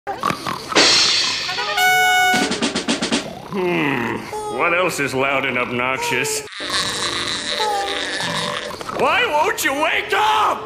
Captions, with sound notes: Hmm, what else is loud and obnoxious? [spongebob laugh™] WHY WON'T YOU WAKE UP?